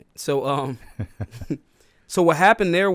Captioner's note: laughs